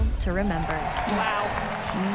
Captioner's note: crowd cheers